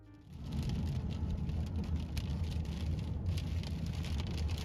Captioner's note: rain pattering